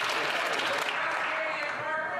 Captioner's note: some Applause